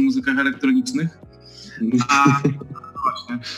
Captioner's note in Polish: śmiech